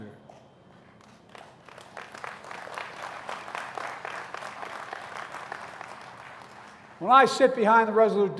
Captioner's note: applause